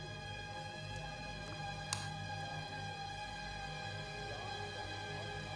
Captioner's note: TV announcer speaking faintly